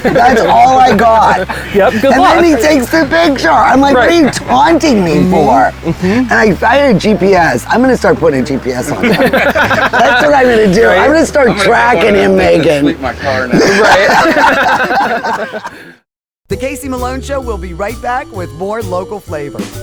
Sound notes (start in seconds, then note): 9.0 both laughing; 14.1 all laughing; 16.5 jazz fusion music